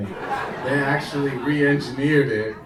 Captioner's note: audience laughing